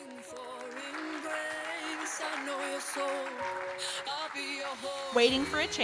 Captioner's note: audience applauding